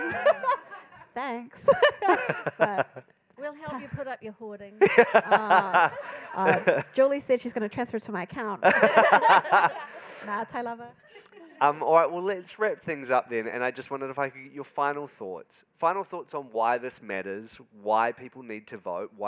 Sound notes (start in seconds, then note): 0.0 attendees laughing; 1.6 moderator and attendees laughing; 4.8 moderator and attendees laughing; 8.6 moderator and attendees laughing